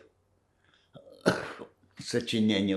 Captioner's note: coughing